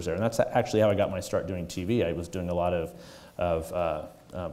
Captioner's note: none